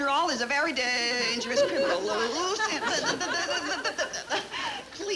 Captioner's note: Joan mumbling